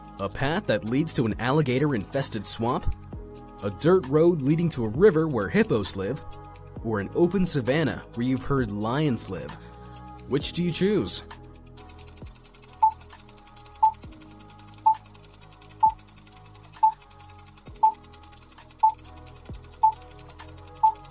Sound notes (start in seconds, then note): 12.1 projector whirring; 13.2 beeping